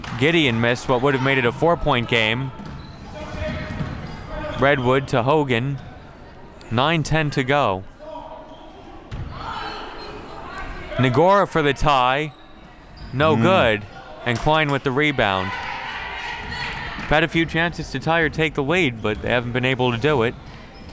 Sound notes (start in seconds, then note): 8.5 crowd murmuring; 15.8 team mates cheering